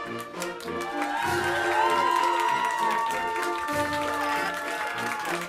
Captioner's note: crowd applauding